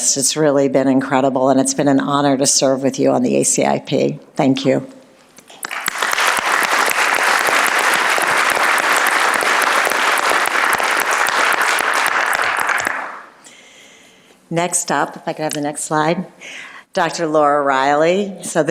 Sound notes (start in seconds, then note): 5.5 applause